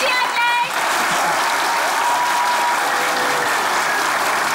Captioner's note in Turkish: Alkış sesleri